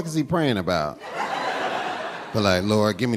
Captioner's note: audience laughing